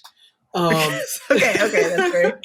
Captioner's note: laughter